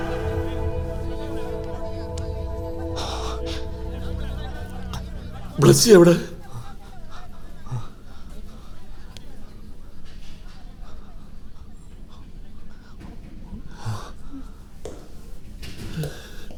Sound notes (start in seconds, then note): 0.0 indistinct chatter